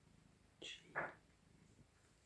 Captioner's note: whispers